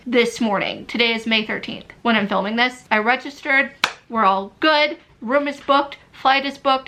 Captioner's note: clap